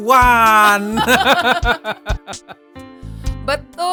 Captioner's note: laughs